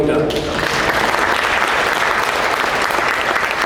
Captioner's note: applause